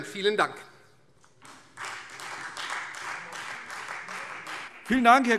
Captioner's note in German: Beifall Freie Demokraten